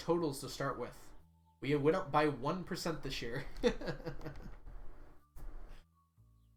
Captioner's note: laughs